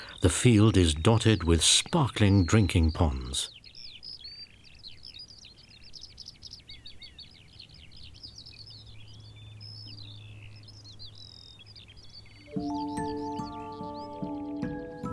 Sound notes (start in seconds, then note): 4.6 birds twitter; 12.4 calm music